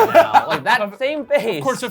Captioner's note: laughing